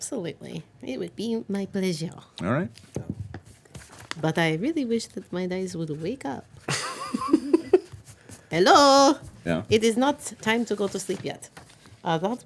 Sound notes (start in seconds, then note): 6.7 laughing